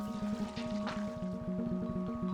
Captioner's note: water pouring